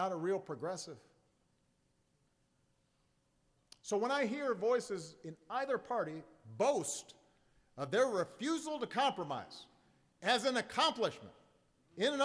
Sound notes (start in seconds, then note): none